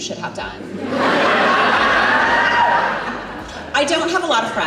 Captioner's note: audience Laughs